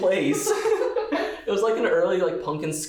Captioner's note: both laughing